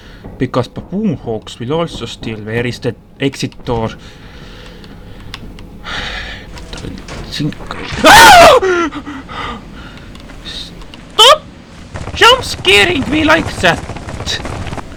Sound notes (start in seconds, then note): 5.7 sigh; 7.8 startled screaming!